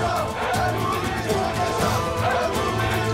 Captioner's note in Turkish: Hep bir ağızdan